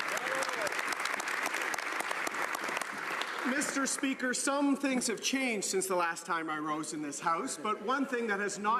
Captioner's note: some Applause